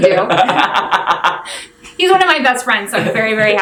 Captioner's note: laughing